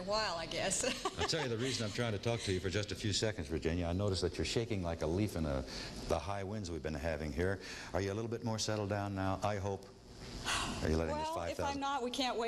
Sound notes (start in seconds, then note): 10.4 sighs